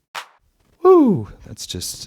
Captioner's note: clap sound